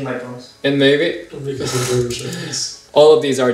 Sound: chuckles

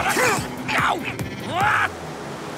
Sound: exclaims

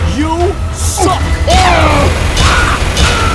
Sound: The IS-2 groans; The M19A1 groans

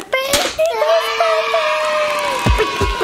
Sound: cheering sound effect

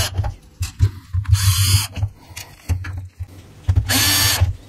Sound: sound of rechargeable screwdriver

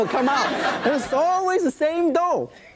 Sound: audience laughs

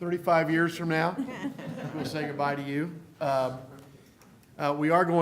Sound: laughter

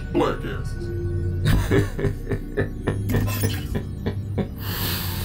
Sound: laughing

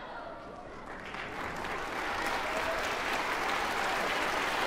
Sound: applause

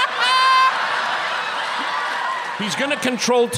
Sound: laughter

